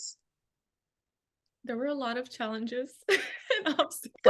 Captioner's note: laughs